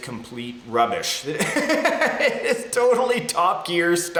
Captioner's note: laughs